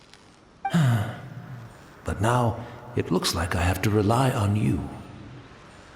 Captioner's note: sigh